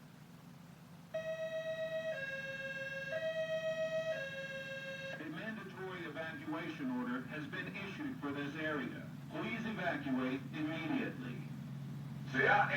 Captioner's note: siren